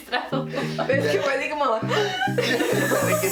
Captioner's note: inhale